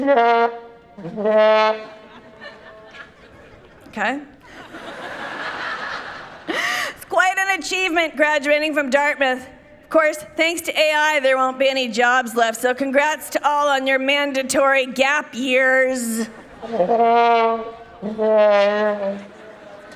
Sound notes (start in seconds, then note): 0.0 playful trumpet; 5.1 people laughing; 16.6 playful trumpet